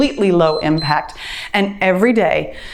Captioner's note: timer beeps